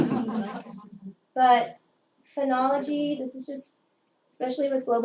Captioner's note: laugh